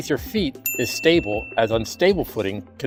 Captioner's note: bell ding